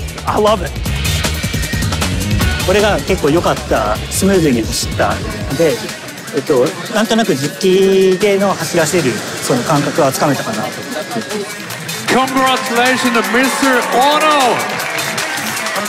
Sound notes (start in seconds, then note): 2.6 speaking Japanese